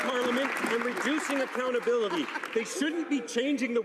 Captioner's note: some Applause